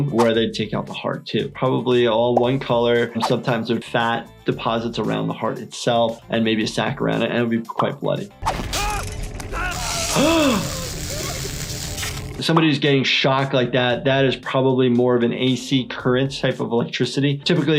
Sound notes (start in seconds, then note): 9.2 electricity buzzing; 9.5 video game character yells; 9.5 gasps